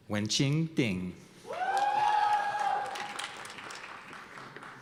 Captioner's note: cheers and applause